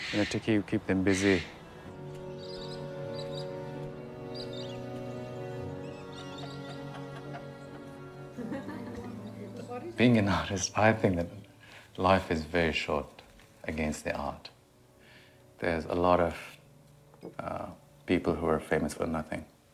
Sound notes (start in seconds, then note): 2.3 plaintive music; 8.3 person chuckling